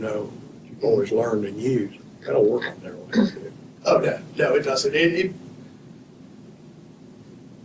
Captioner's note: clears throat